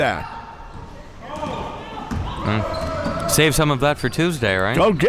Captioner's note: spectators shouting